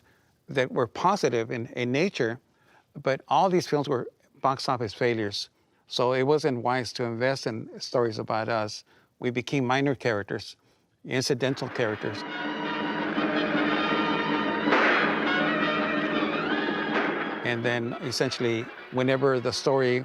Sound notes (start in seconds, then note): 11.5 gunshots blasting; 11.6 dramatic music